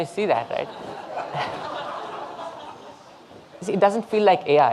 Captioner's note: audience laughing